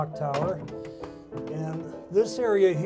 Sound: door opening

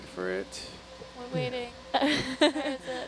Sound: scientist chuckles

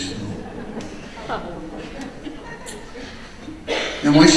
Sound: audience laughing

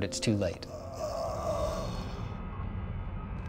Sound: Buddy’s death rattle

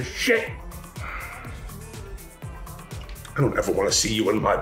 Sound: Hunter sighs

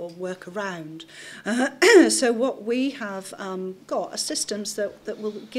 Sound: clears throat

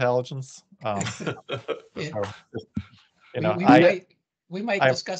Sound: laughter

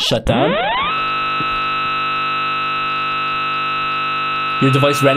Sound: virus screeching

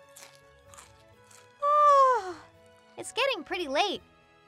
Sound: yawns

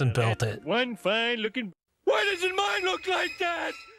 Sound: Homer's voice

